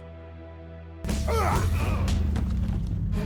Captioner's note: grunting